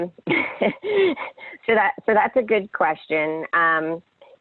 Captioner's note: laughs